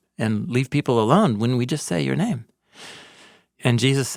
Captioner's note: none